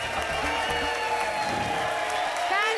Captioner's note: whoosh